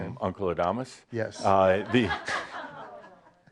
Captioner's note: some chuckles